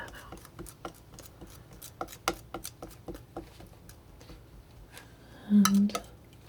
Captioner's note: scratching